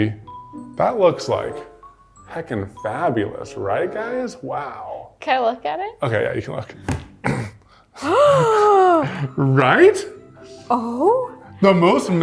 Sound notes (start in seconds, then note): 7.6 gasp